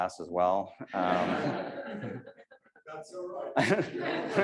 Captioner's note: audience laughs